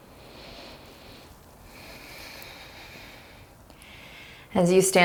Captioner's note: deep breaths